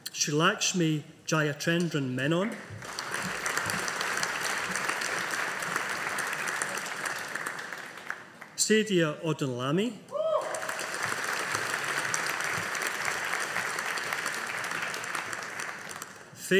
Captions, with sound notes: Sreelakshmi Jayachandran Menon. (AUDIENCE APPLAUDING) Sadia Odunlami. (AUDIENCE APPLAUDING)